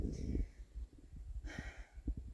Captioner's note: sighs